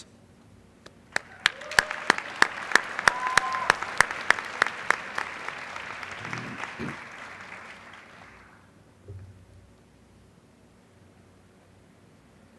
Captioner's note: applause